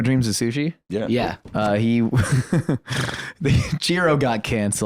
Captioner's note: laughs